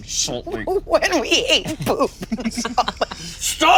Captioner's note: laughs